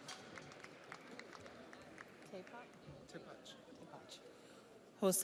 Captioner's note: audience applauds